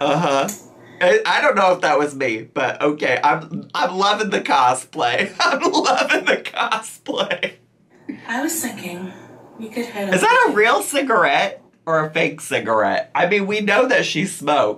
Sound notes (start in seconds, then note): 5.2 laughing